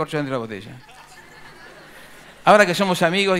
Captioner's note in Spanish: Risas